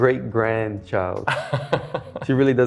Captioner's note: laughs